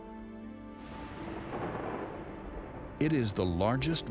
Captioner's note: thunder roars